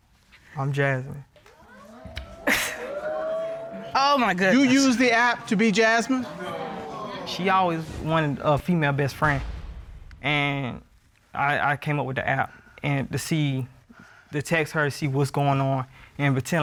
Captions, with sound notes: -I'm Jasmine. -[audience exclaiming] -Oh, my goodness. -You used the app -to be Jasmine? -[audience exclaiming] She always wanted a female best friend. And I-- I came up with the app. And to see-- to text her to see what's going on